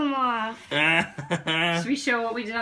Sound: laughing

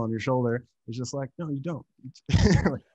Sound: laughs

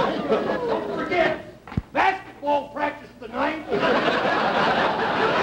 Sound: audience laughter

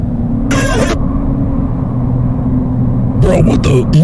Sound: more wind

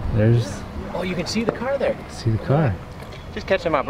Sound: male Voice

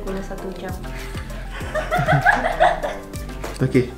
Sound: laughs

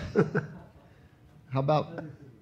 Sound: laughs

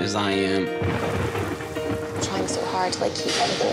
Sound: thunder booming

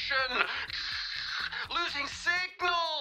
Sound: imitates static

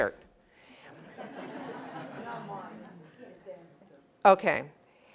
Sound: laugh

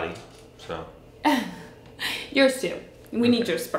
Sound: laughs

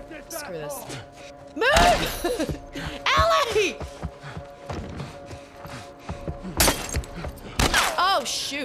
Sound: laugh

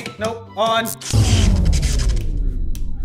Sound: electricity zapping

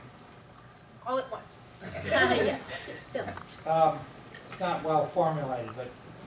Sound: laughter

